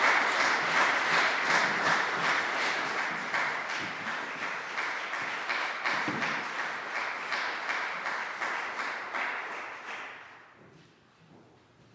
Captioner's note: applause